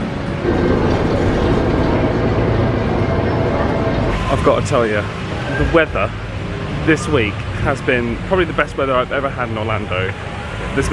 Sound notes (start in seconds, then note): 0.1 rumble of transport